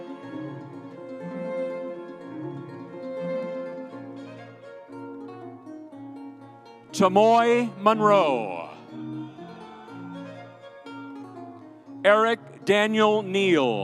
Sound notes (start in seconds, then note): 0.0 lively music continues; 8.9 audience cheering